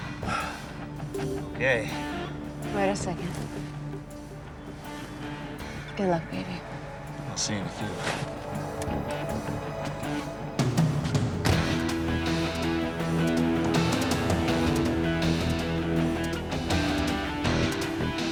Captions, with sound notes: (sighs) Okay. - Wait a second. Good luck, baby. - I'll see you in a few. (car door slams) (suspenseful music)